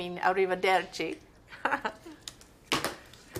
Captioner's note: laughs